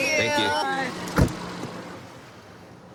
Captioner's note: car door closes